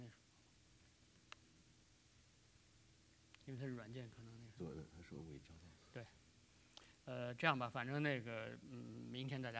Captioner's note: speaking in Chinese